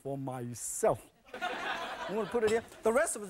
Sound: audience laughing

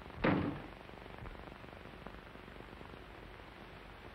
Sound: sound of door closing

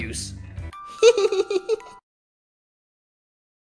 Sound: exceptionally cute giggle

